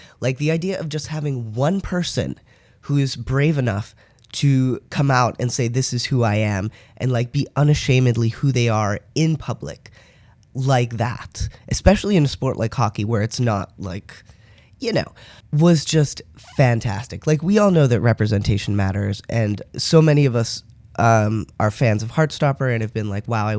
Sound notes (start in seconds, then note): none